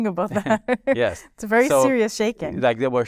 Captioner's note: chuckling